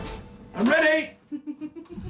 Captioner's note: woman chuckling